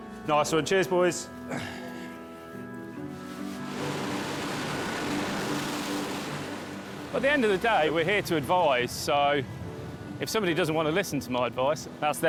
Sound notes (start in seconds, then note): 2.7 gentle music continues; 5.3 water sloshes